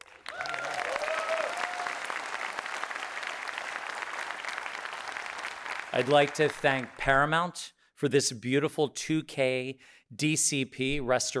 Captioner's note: audience cheering